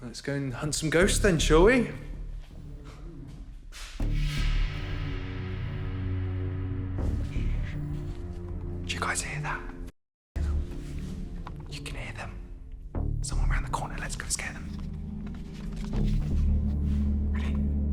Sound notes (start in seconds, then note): 7.7 man hushes; 15.5 suspenseful music